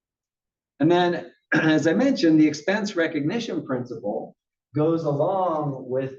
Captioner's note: cough